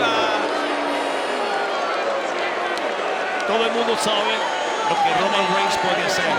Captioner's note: applause